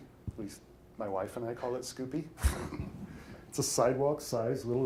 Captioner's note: chuckles